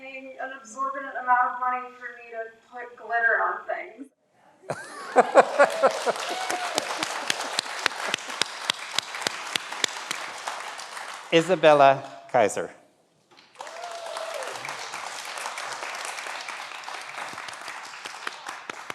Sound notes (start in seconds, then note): 4.7 everyone laughs; 4.7 everyone applauds; 13.4 everyone applauds